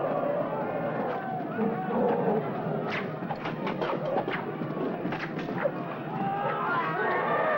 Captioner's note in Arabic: أصوات الأسلحة و قعقعتها; صرخات الجندي